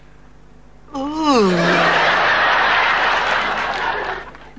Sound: audience laughing

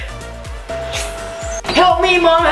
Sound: quietly

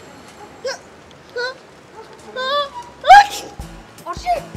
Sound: girl sneezes

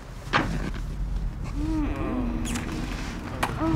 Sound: moaning

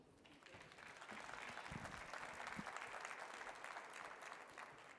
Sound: audience clapping

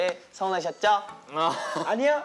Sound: forced laughter

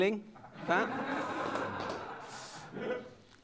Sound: laughter

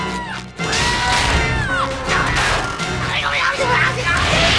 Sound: screaming

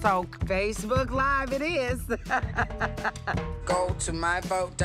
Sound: laughs

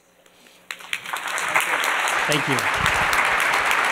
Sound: audience applauds

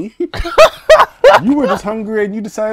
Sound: laughing

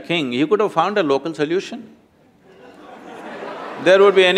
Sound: laughter

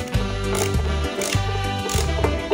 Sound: torquing

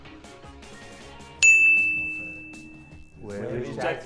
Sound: upbeat music; ding

